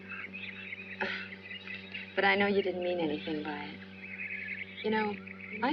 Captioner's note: chuckles